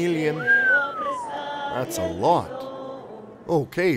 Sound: whistle

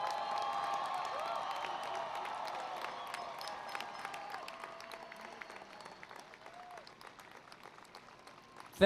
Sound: cheering and Applause

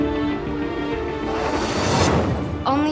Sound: transition sound

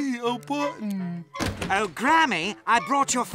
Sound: British accent

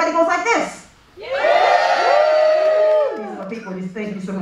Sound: audience cheering

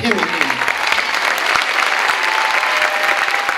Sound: clapping

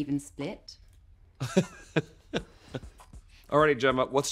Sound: laughs

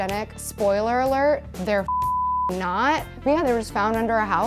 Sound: beep

